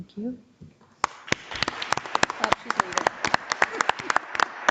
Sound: audience applauds

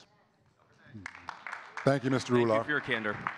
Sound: audience clapping

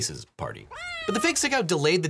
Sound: cat meowing

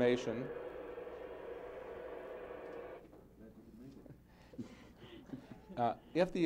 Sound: electronic noise interrupts comments

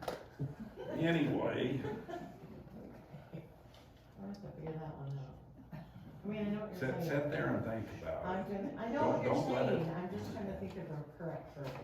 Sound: laughter

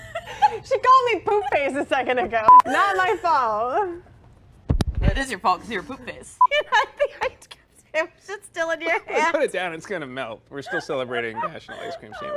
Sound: laughter

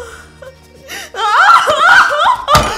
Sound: screams

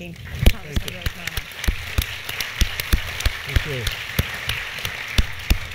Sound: applause

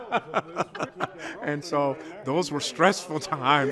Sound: laughter

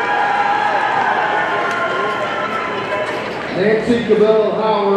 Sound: audience cheering

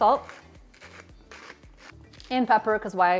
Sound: salt mill grinds

